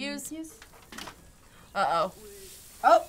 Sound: ladder creaking

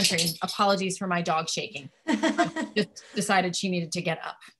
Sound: laughing

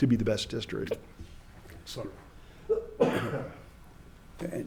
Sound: coughs

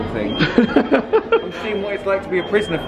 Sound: laughs

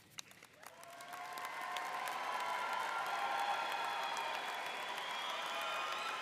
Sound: audience cheering and applauding

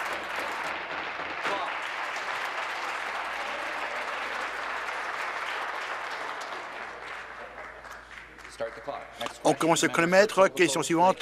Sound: applause

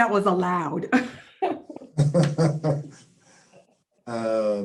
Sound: laughing

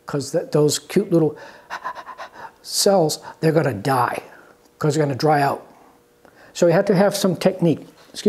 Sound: panting sound

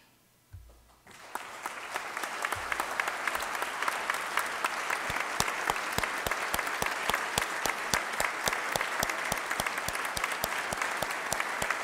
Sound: applause

